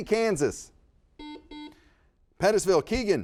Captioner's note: buzzer beeps